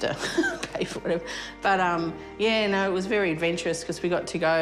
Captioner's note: laughs